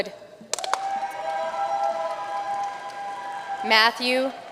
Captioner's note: audience cheering and applauding